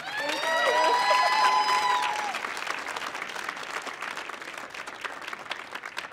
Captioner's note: audience applauding